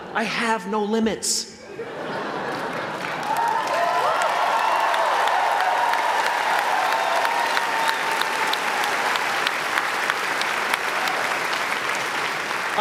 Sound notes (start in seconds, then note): 1.6 laughter; 2.5 applause